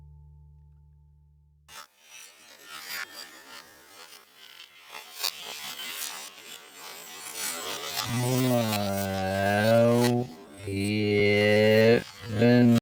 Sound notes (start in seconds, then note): 1.7 cutting